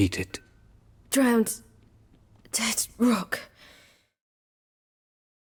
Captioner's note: straining